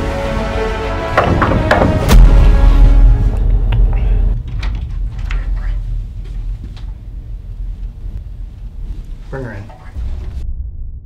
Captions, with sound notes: (knocking on door) - Bring her in.